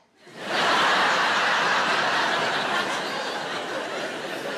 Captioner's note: audience laughing